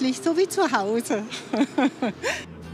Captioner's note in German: Lacht